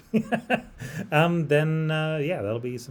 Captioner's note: laughs